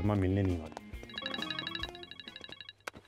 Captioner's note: Phone ringing